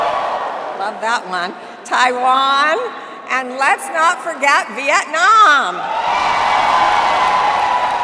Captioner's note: cheering